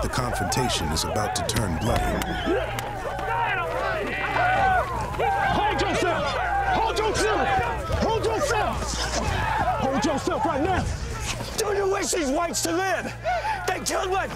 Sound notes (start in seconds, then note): 3.5 shouting, fighting